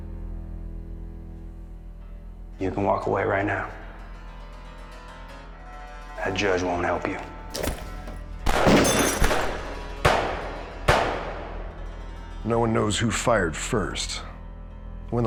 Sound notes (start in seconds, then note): 8.4 gunfire